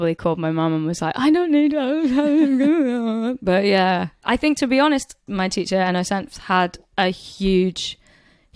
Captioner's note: sobbing